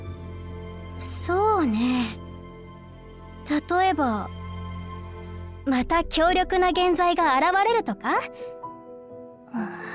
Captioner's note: sigh